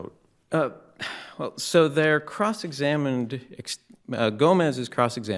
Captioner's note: sighs